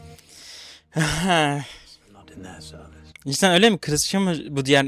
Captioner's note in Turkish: iç çeker